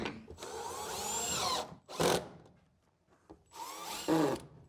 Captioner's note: screws drilling